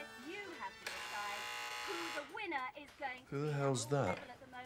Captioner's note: doorbell buzzes